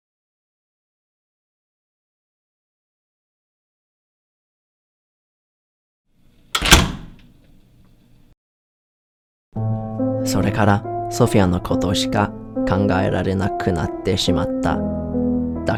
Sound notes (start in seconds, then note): 6.5 door slams